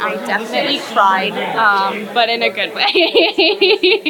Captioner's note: laughs